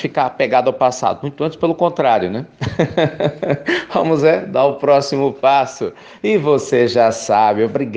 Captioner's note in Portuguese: risos